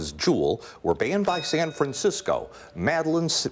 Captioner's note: bell rings